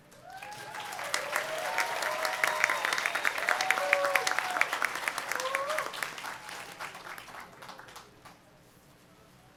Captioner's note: applause